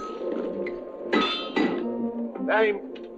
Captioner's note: metal clanging